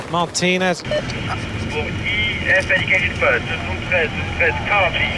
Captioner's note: man speaking foreign language over radio